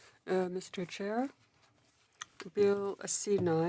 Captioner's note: speaking French